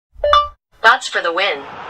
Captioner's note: electronic chime